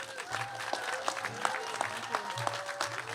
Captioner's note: cheers and applause